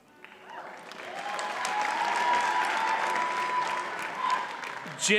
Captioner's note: audience cheers and applauds